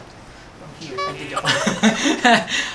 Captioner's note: laughs